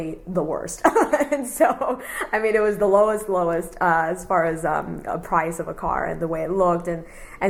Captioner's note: laughs